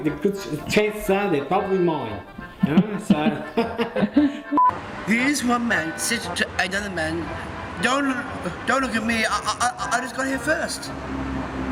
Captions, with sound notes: chances are they're probably mine! (laughter) Here's one man, says to another man, "Don't look at me, I just got here first".